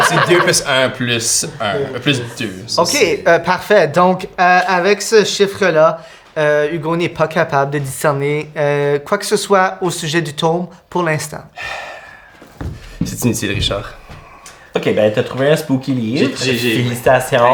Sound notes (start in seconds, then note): 0.0 group laughs; 11.6 sigh